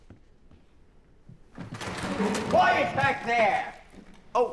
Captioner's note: theater door opening loudly